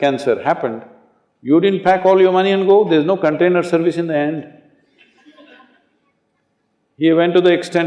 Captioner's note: laughter